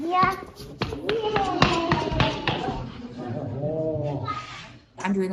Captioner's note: child playing